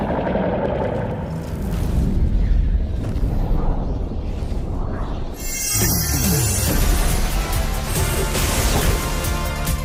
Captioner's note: distant roaring